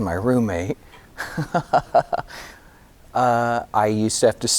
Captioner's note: laughing